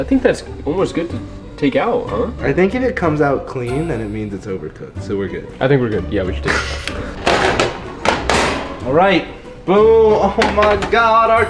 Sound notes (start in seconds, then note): 9.4 pans clatter